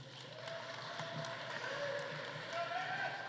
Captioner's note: audience applauding; audience cheering